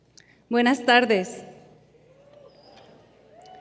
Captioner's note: cheers and applause